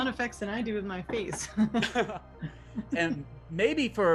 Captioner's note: laughs